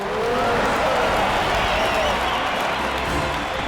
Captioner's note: cheers